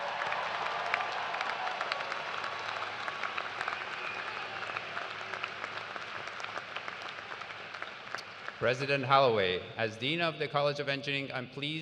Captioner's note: cheers and applause